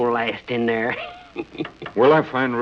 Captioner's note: laughs